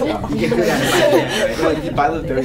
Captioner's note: laughter